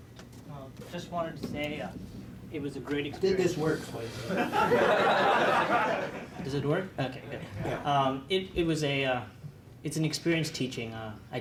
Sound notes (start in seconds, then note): 4.2 laughter